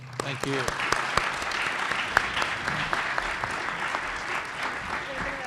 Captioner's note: group applauds